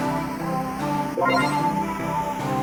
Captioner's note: power up sound